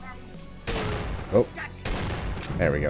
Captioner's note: Vulture gunfire, Shotgun returning the favor; boom